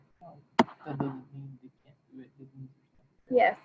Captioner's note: faintly speaking